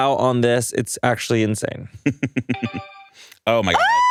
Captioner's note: laughs